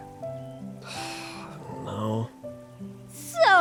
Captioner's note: sigh